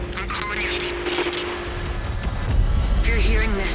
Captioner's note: distorted voice on radio